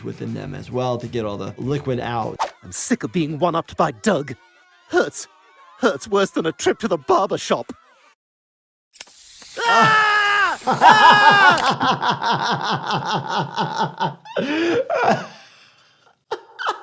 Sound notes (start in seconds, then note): 9.5 Stewie screaming; 10.3 laughing